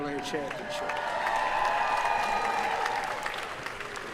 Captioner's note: cheering